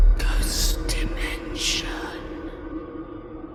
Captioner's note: ghostly Voice